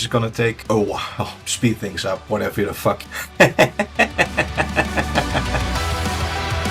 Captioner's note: laughs